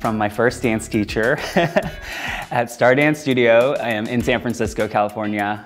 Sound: laughing

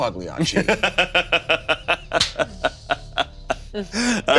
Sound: laughing

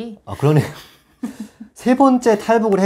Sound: laughs

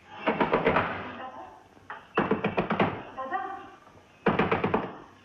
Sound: knock On Door

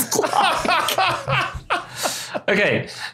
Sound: laughs uproariously

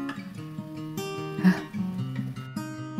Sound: yelp

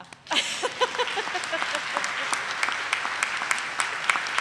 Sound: audience applauding

